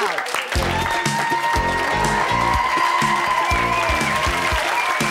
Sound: cheering and applause

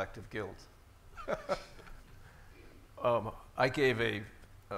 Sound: laughing

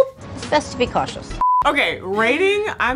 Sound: screen beeping

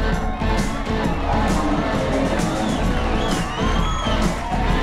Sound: crowd cheering

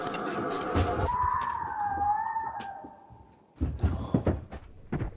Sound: person screaming

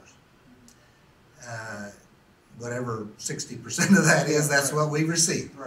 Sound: laughs

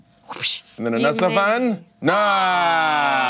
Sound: voice is muffled

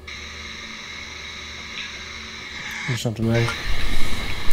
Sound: radio noise hissing

